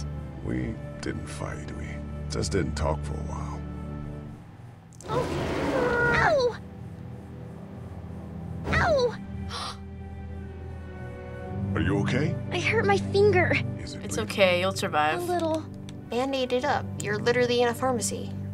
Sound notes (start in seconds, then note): 9.0 gasps